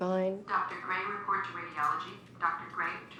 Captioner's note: woman over PA